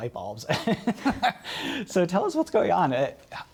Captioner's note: laughter